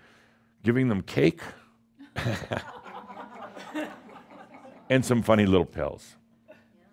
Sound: some chuckles

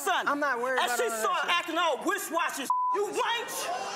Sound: beep

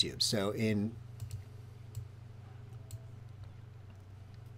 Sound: mouse clicking

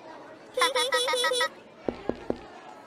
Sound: laughing

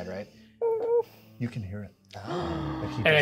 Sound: co-host gasps

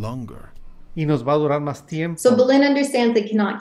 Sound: speaking Spanish

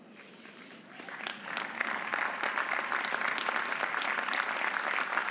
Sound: audience applauding

